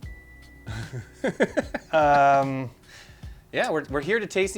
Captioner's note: laughs